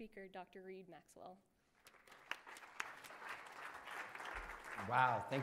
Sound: applause

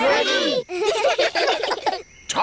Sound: children giggle

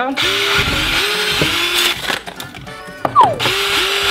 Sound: drill sounds

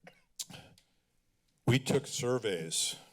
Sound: coughing; clicks tongue

